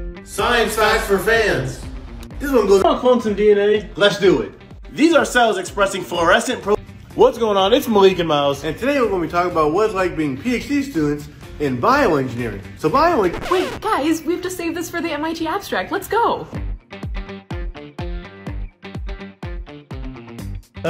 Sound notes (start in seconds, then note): 13.1 record scratch